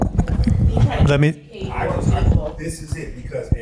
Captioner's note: audience members chattering